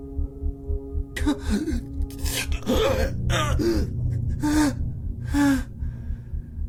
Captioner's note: Frank struggles and gasps